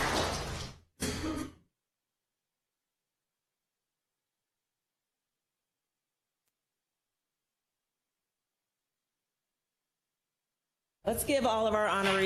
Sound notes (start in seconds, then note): 0.0 applause